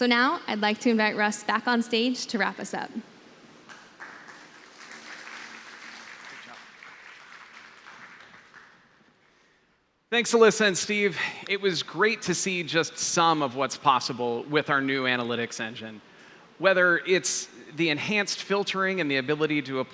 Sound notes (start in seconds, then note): 3.6 applause